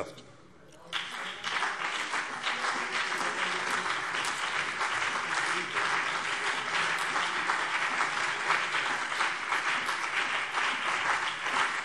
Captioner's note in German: Beifall BÜNDNIS 90/DIE GRÜNEN und CDU